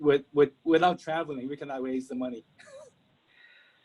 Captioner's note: laughs